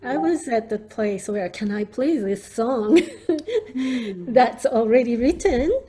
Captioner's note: laughs